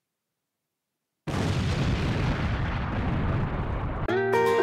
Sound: boom; explosion

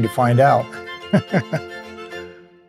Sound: laughs

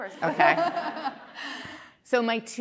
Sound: laughter

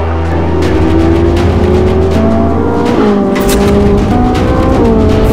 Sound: engines rumbling

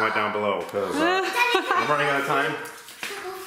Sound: laughing

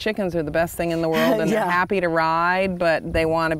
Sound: chuckling

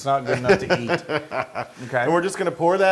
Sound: laugh

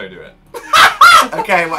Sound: laughs

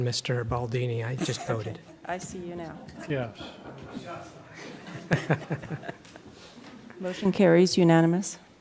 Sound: laughter

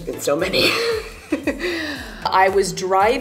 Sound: laughs

